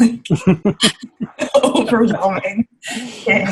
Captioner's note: laughing